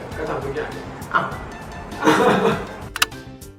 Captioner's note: laughs